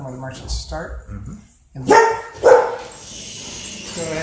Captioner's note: dog Barks